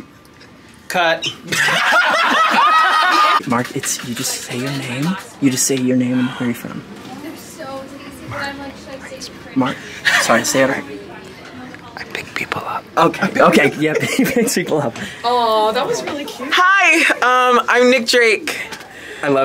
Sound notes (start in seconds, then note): 1.4 actors laugh